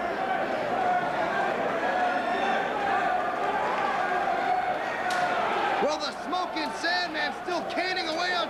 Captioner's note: crowd cheering